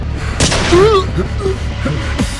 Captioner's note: gunshot